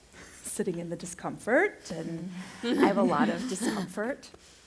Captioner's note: laughter